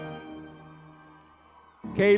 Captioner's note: crowd cheers